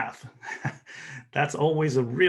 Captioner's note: laughs